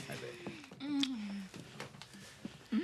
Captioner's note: smooches